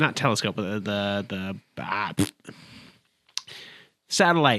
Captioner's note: fart sound